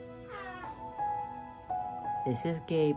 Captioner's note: baby cooing